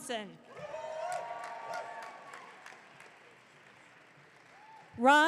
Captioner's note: audience cheering